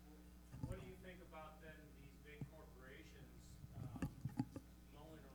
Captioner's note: participant speaks faintly